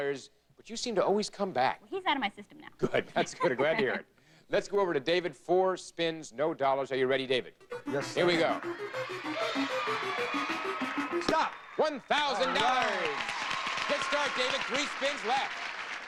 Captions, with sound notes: But you seem to always come back. He's out of my system now. Good. That's good, glad to hear it. Let's go over to David, four spins, no dollars; are you ready David? Yes sir. Here we go. [audience cheering] Stop! $1,000! Alright. [audience applauding] Good start David, three spins left.